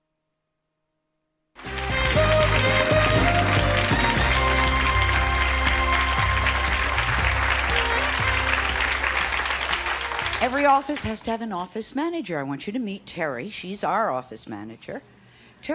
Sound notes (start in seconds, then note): 1.9 audience applauds